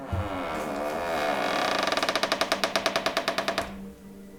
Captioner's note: door creaks